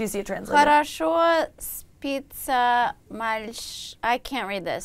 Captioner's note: foreign language